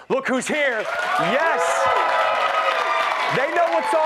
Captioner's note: cheers and applause